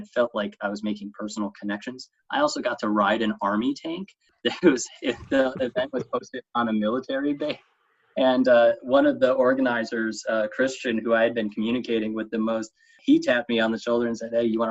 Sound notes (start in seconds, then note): 4.5 chuckle